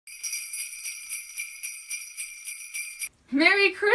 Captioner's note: bells jingling